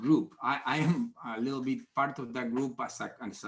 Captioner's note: chuckles